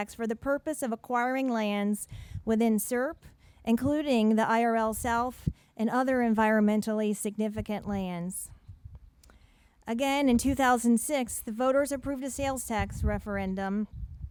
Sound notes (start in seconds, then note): none